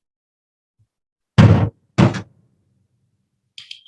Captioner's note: bangs desk